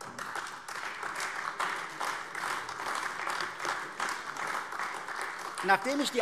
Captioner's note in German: Beifall AfD